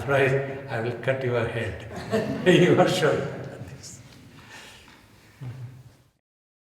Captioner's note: laughing